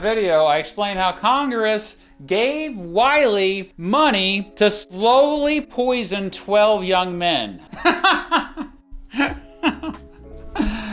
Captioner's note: laughs